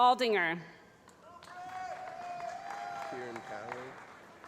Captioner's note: voiceover